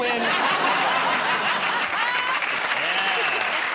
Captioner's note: applause